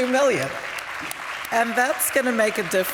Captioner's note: applause